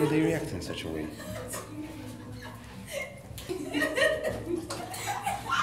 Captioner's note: women laughing